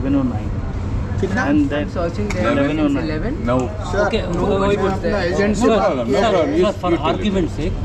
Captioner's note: people chatter